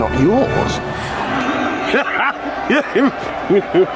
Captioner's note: Wat laughing